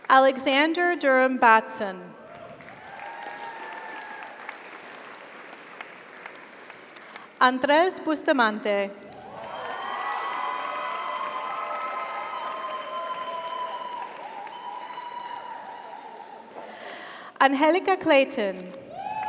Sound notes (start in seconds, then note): 2.2 audience applauds; 2.3 audience cheers; 9.1 audience applauds; 9.2 audience cheers